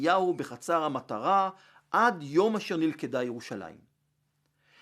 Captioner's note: Hebrew